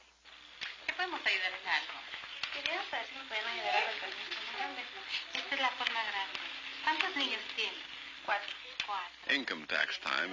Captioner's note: speaking in Spanish